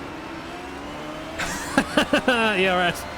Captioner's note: laughter ensues again